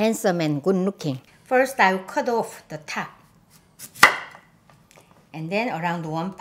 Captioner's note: knife chopping